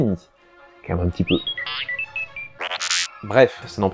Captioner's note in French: R2 râle